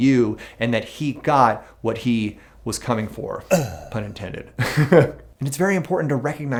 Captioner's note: laughs